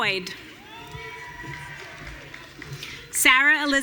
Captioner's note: audience cheering